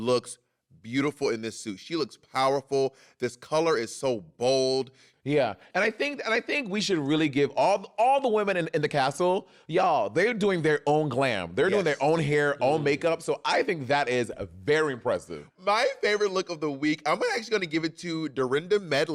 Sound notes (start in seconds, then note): none